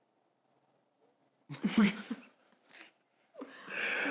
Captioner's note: laughter